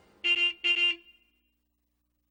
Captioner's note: horn honks